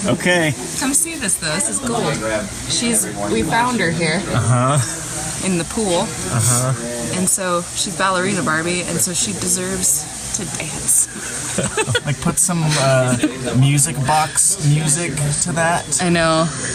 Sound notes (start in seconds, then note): 11.5 laugh; 11.5 laughs